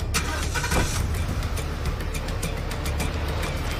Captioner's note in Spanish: Ruido del motor